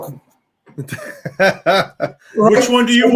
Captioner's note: laughs